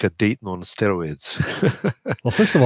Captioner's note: laughs